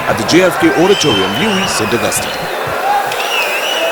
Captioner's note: wild applause and cheering for 22 seconds